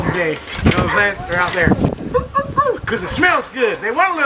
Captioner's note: woof woof woof